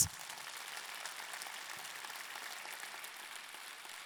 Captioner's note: audience clapping